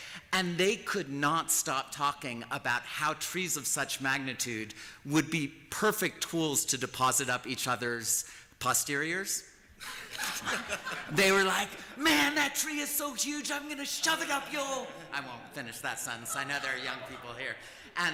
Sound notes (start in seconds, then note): 9.8 laughter